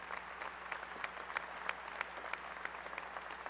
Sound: applause

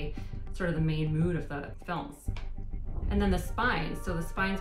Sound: scene whooshing; tense music

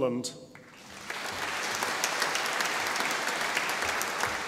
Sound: audience applauding

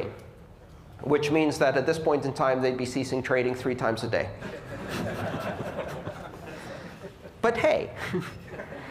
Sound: laughter

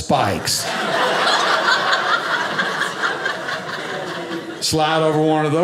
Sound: audience laughing

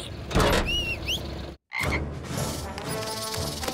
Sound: whistling; croaking

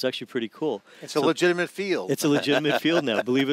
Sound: laughs

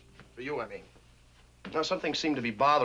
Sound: none

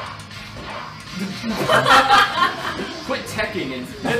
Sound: laugh

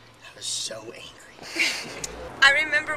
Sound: laughter

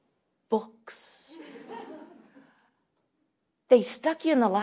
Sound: laughter

